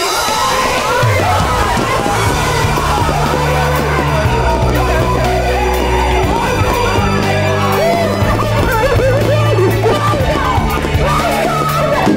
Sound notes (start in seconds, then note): 2.2 triumphant music; 4.5 all cheering loudly; 8.5 all screaming, shouting